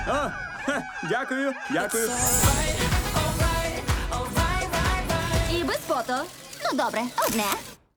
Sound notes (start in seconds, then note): 0.0 chuckles; 7.2 camera clicks